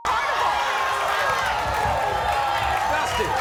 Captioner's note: crowd roaring